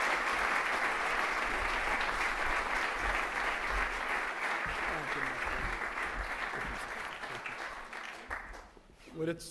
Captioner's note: applause